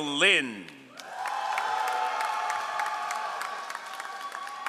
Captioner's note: all applauding